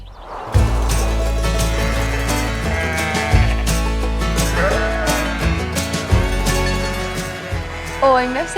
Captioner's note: bleating